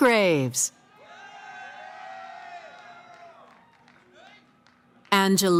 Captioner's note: cheering